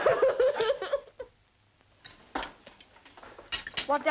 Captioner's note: continues sobbing